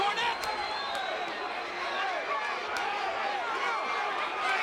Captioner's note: crowd yelling